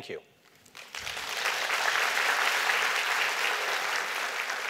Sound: applause

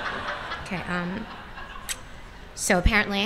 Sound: laughter

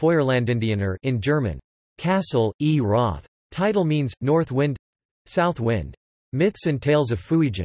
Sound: in German

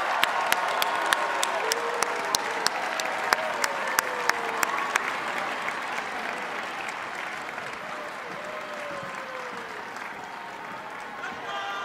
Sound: cheers and applause

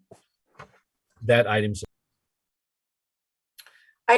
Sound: missing audio

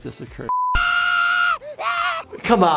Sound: background tonal beeping; Butters screaming

